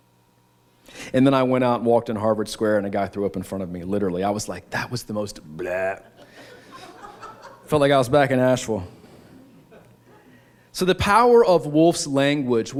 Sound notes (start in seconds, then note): 6.0 laughter